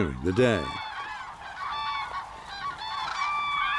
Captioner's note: cranes cawing